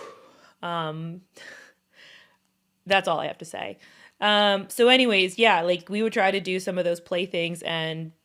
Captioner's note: breath